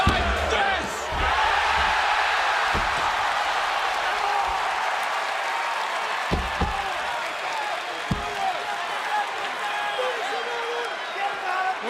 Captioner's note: crowd cheering